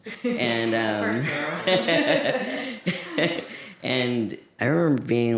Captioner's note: laughter